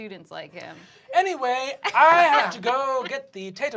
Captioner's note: soft, accented voice